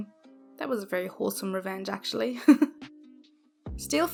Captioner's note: giggles